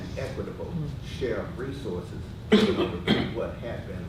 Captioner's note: person coughing